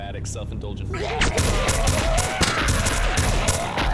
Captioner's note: snarling